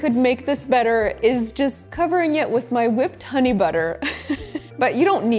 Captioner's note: laughing